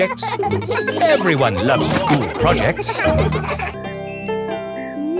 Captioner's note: children laughing